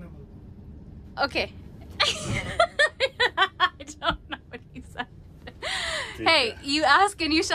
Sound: laugher

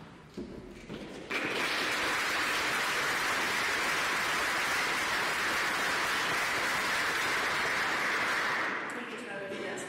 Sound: applause

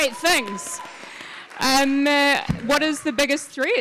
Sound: audience claps

